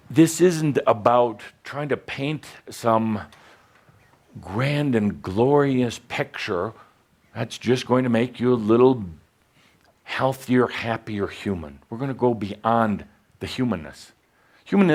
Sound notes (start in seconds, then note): none